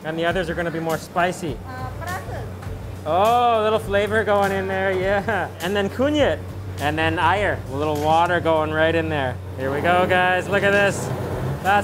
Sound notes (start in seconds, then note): 1.9 cook speaks in a foreign language; 5.9 speaks in foreign language